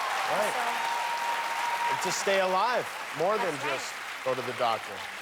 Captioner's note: cheers and applause